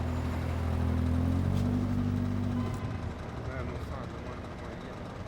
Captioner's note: car running